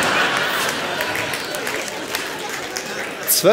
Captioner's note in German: Lachen; Klatschen